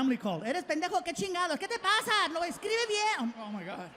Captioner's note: speaking Spanish